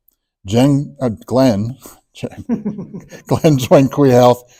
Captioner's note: laughs